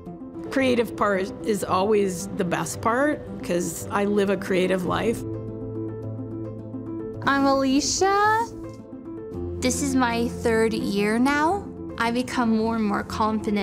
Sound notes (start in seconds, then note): none